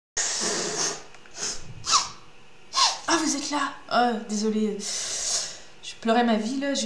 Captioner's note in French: pleurs